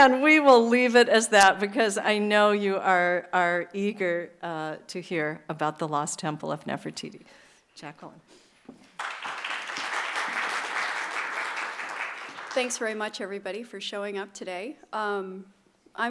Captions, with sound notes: And we will leave it as that, because I know you are eager to hear about the lost temple of Nefertiti. Jacquelyn. [APPLAUSE] Thanks very much, everybody, for showing up today.